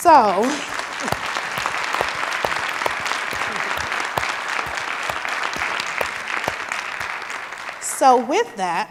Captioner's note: applause